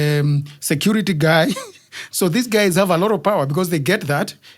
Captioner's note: laugh